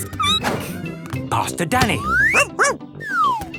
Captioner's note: squeaking; barking